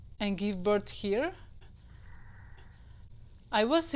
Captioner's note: sound of earth